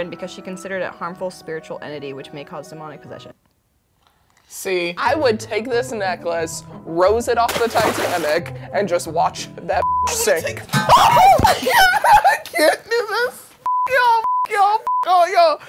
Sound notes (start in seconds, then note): 9.8 beep; 10.7 metal banging; 10.9 all screaming; 13.6 beep